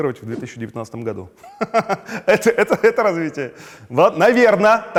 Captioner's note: laughs